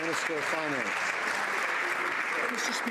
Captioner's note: some Applause